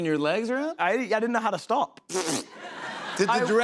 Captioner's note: laughter